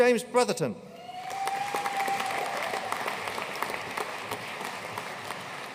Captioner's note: audience cheering and applauding